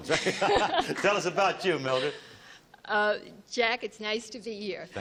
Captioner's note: chuckles